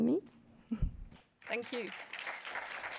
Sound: applause

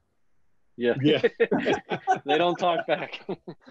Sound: all laughing

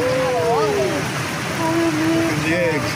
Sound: water crashing nearby

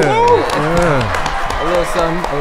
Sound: audience applauding

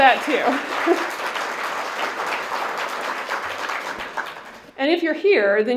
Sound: applause

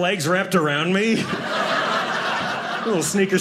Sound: audience laughing

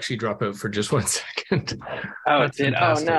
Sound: laughs

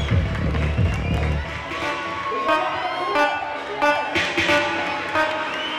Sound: cheering

